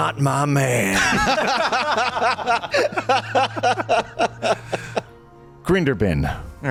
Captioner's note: laughter